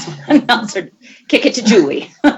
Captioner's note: laughing